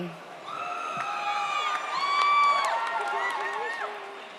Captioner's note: audience cheers